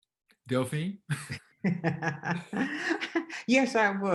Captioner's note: chuckling